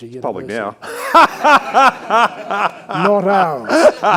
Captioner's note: all laughing